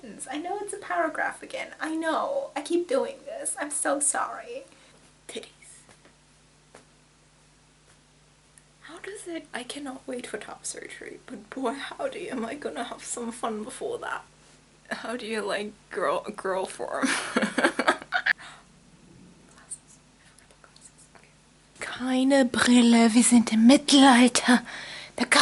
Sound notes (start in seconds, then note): 17.1 laughs; 18.2 gasps